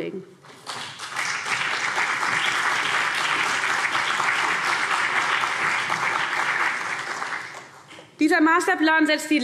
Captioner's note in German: Beifall CDU und BÜNDNIS 90/DIE GRÜNEN